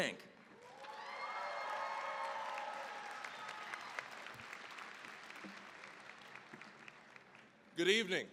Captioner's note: cheering, applause